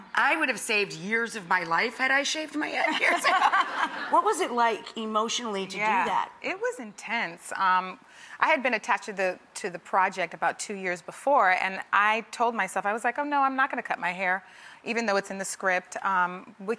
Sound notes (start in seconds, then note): 2.8 laughing